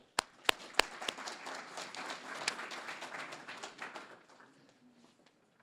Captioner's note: applause